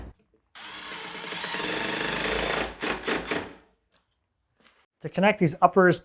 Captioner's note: driller whirring continues